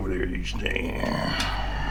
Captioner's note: burps